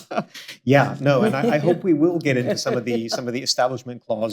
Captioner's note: laughs